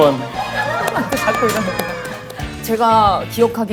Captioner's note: crowd murmuring